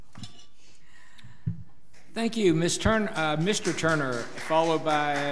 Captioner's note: audience applauds